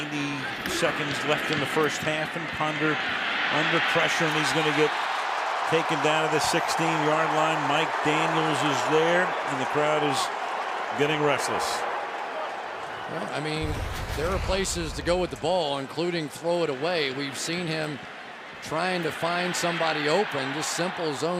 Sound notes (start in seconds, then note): 12.3 crowd roars